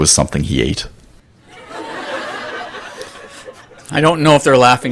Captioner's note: laughter